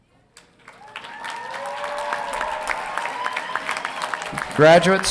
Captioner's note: audience applauding and cheering